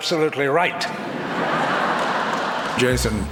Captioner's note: audience laughs